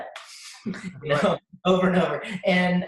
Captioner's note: both laugh